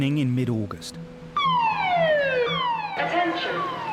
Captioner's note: alarm blares